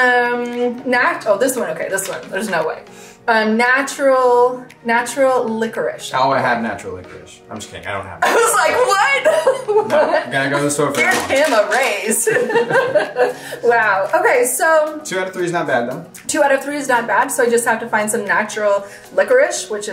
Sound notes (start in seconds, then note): 12.1 laughs